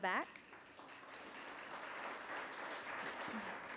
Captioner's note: applause